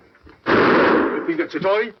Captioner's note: gunshot